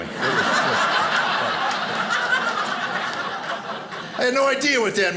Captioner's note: audience laughing